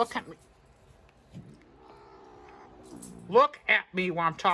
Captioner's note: Caprice growls